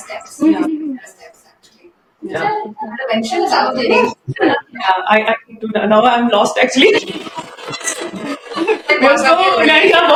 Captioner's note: laughter